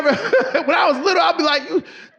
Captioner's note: audience laughing; laughs